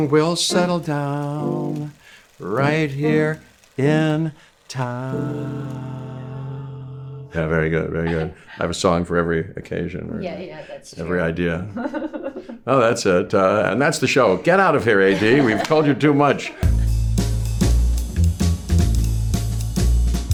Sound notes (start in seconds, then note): 11.8 laughs; 15.1 laughing; 16.6 upbeat music